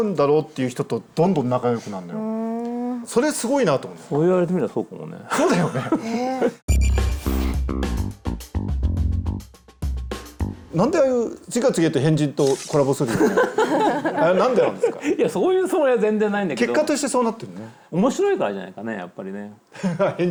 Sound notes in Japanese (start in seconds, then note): 13.1 笑い